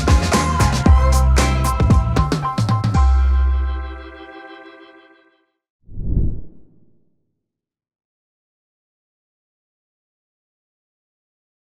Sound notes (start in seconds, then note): 0.0 upbeat music; 5.9 graphic whooshing